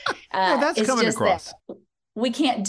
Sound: laughter

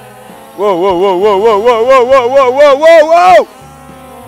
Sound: cry of panic

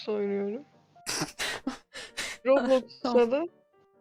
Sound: intense chuckling

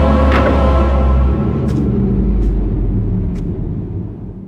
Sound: scary cave sound

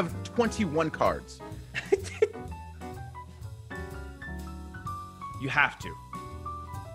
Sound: laugh

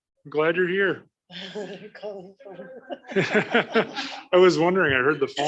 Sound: laughing

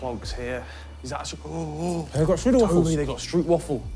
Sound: gasps

